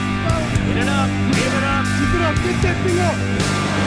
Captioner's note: hard rock music; instructors yelling; heavy surf